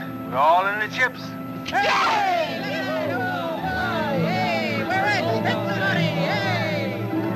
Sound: cheering

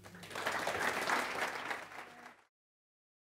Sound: clapping

